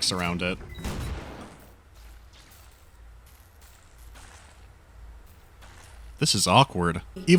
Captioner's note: no other sound is present but the electrical crackling